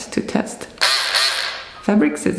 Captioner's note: tool buzzes